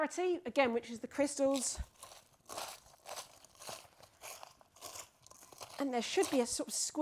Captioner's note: ice cream crystals crunching